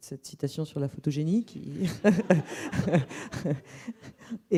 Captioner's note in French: rires